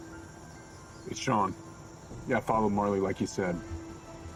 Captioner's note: none